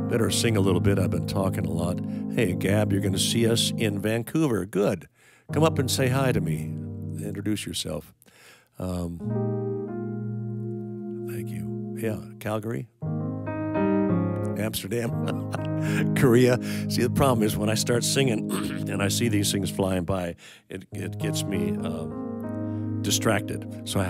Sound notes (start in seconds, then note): 15.0 laughing